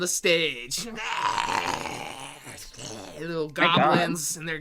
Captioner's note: growling